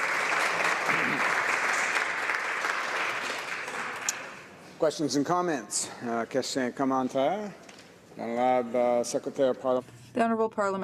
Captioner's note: applause